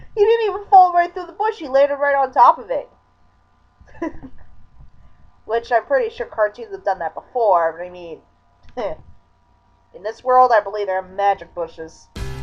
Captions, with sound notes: He didn't even fall right through the bush, he landed right on top of it! (laughing) Which I'm pretty sure cartoons have done that BEFORE, but I mean... (chuckle) in this world I believe there are MAGIC bushes.